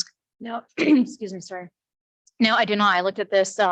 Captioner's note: clears throat